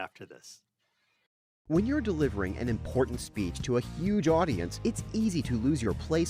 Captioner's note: voiceover